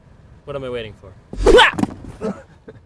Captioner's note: yelp; laughing